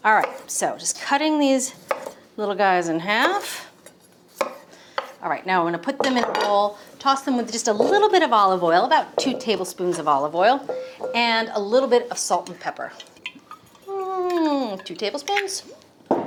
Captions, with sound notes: Alright, so just cutting these little guys in half. Alright. Now I'm gonna put them in a bowl, toss them with just a little bit of olive oil, about two tablespoons of olive oil, and a little bit of salt and pepper. (hums) Two tablespoons?